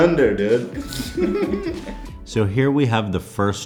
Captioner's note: laugh